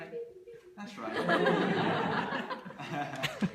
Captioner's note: laughter